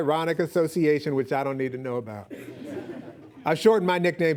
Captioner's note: audience laughing